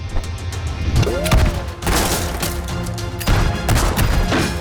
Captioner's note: gunfire echoing